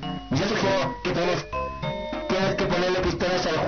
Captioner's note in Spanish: none